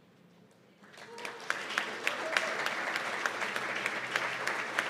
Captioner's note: applause